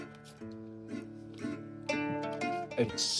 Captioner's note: laughing